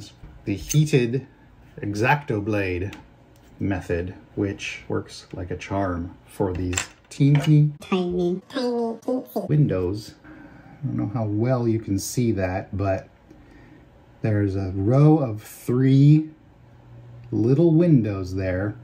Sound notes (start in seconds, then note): 7.8 higher pitched